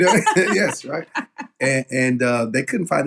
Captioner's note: laugh